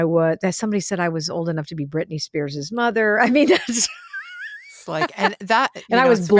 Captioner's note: laughs